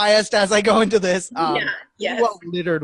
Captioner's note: laughing